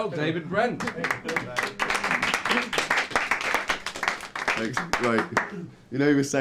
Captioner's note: clapping